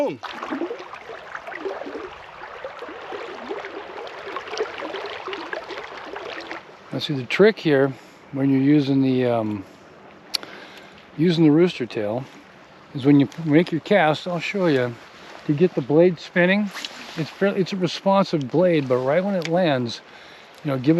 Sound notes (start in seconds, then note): 0.1 fish splashing; 1.9 water gurgling